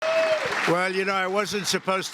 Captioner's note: applause